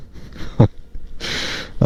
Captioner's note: chuckling